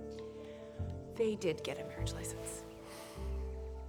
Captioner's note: sighs